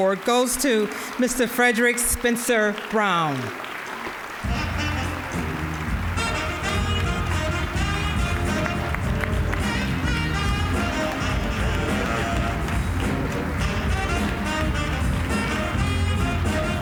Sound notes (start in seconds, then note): 4.2 applause; 4.4 upbeat jazz music